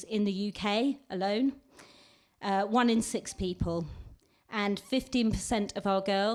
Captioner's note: none